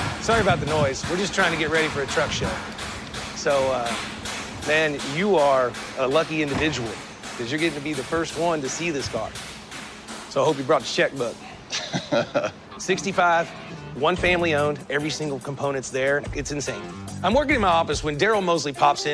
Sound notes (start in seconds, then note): 11.7 laughs